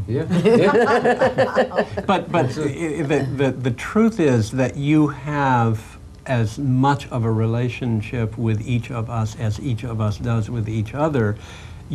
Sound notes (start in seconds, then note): 0.3 laughing